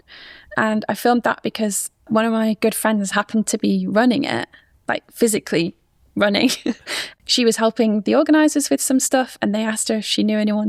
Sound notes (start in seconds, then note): 6.4 chuckles